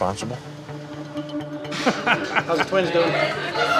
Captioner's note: laughter